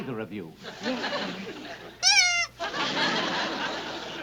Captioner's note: toy squeaks